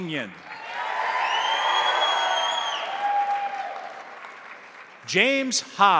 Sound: crowd applauding; crowd cheering

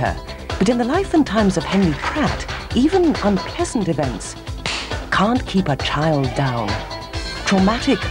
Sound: slap

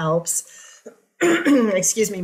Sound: clears throat

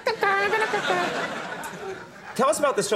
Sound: audience laughing

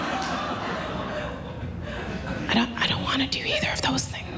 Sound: laughter

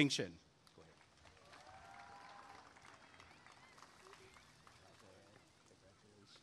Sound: applause and cheering

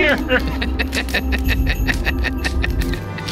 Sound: laughing

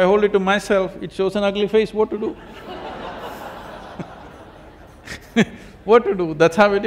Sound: laughter

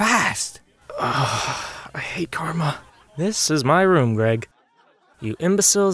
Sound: sigh

